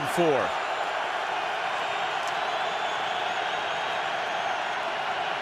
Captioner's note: cheering